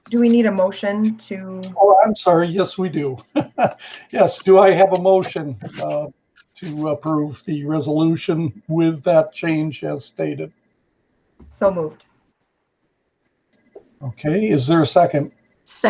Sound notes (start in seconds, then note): 3.4 laughs